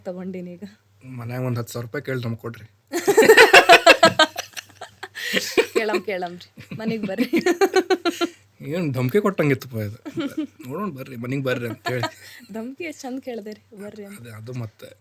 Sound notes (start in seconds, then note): 3.0 laughs; 7.5 both laugh